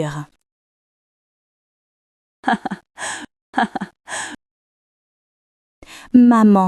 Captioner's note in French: rire